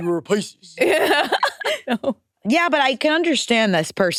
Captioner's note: laughs